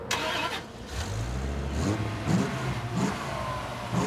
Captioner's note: car engine revving